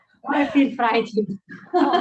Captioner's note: laughs